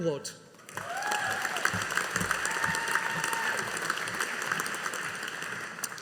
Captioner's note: audience applauding